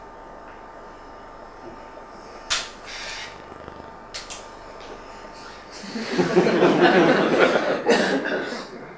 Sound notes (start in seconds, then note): 2.5 camera flashes; 5.8 laughter